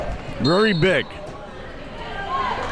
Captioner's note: whistle blows